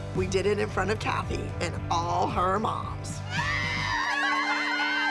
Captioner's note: cheering